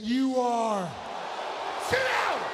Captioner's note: audience booing